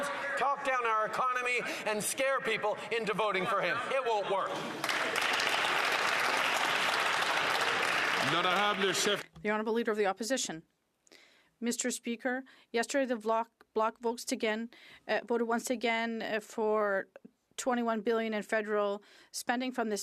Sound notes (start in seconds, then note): 8.0 some Applause